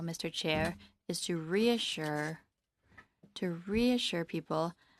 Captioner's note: speaking in French